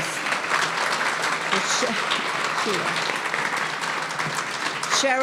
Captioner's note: audience applauding